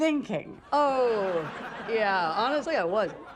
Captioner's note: laughter